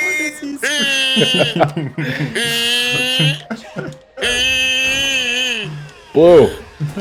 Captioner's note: laughter intensifies; laughs so hard he comes a chair; starts huffing and puffing to calm down